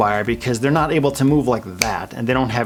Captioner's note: fingers snap